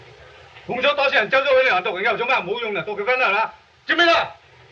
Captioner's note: speaking foreign language